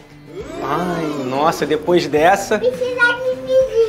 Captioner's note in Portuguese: som de plateia vaiando